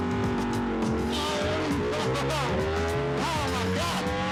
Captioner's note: engine roaring